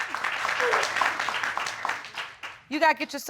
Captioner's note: audience clapping